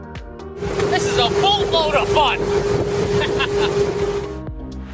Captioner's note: laughs